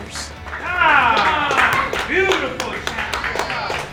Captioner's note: coach cheering